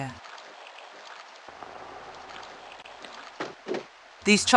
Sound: rubber sounds

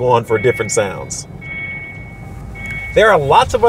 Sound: beeping

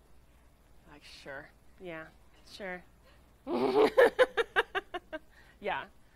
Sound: laughing

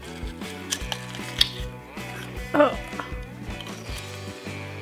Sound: jicama crunches

